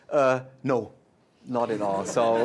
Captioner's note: laughter